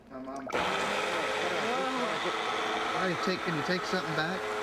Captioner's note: blender whirring